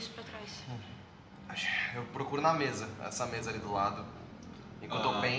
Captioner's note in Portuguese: suspira pesado